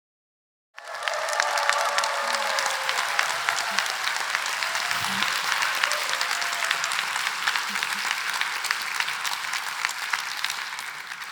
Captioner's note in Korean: 박수